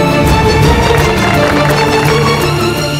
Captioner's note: All Clapping